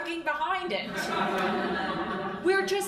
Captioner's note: crowd laughing